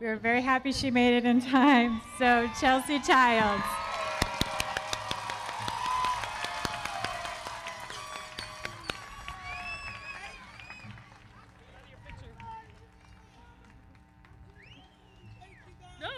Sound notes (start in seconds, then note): 4.0 audience cheering; 4.0 everybody clapping